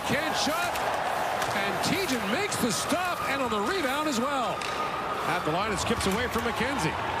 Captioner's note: cheering and applause